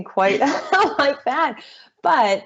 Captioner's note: chuckling